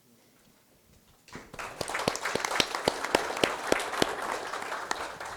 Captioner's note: applause